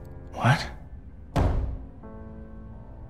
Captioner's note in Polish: Stukanie